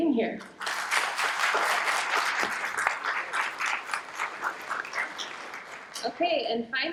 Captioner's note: applause